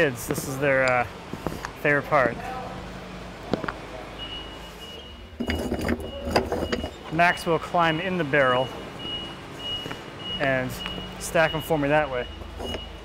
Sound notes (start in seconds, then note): 4.8 wood clattering, beeping